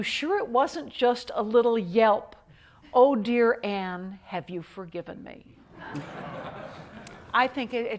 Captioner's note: laughter